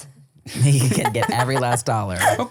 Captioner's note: laughs